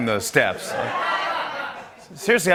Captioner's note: laughter